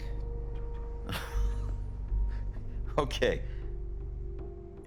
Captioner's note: laughs